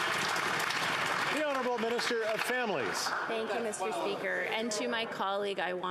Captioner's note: applause